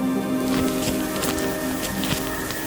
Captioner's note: elk bugle